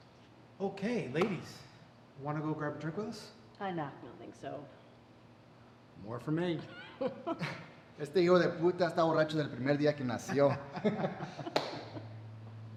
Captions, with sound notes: - Okay? Ladies, wanna go grab a drink with us? - No, I don't think so. - More for me. (Detective Hoffman laughs) (Detective Sanchez speaking in Spanish) (both laugh)